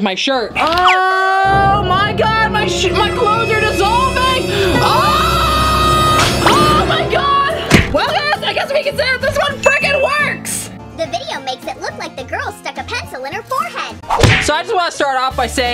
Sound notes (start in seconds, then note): 4.7 screams